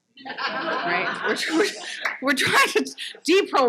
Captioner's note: audience laughs